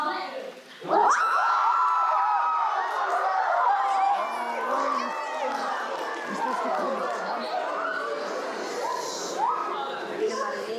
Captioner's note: applause & Cheering